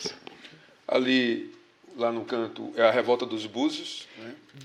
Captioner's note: speaking portuguese